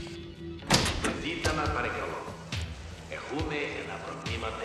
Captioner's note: announcer speaking spanish